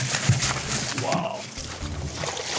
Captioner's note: splashes